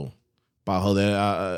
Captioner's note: speaking In Foreign Language